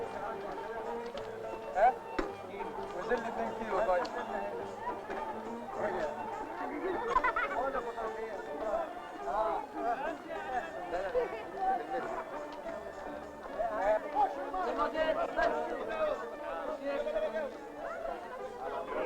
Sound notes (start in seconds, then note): 6.6 laughter